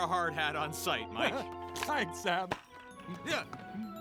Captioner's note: chuckles